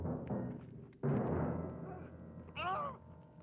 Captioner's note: screams